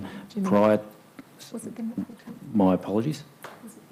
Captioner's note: speaks faintly